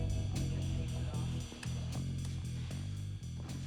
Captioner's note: slow rock; police radio